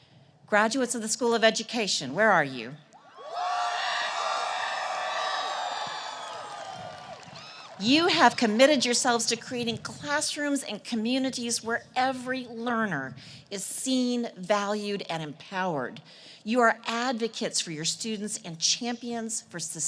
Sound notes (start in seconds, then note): 3.1 cheers and applause